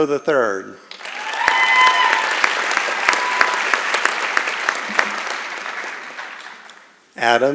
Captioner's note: applause and Cheering